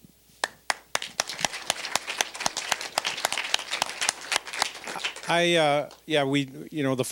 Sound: applause

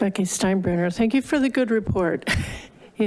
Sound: laugh

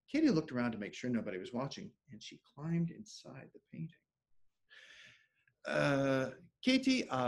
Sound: speaking French

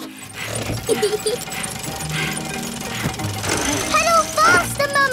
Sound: mummy pig panting; peppa laughing

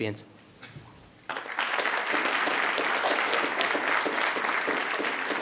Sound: everyone applauds

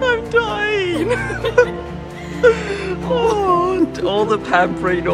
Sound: laughing

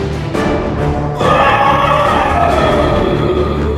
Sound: roar

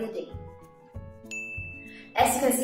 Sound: bell rings

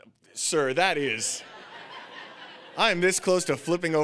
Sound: audience laughing

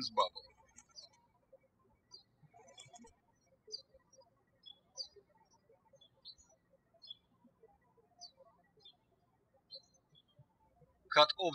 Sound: birds chirping

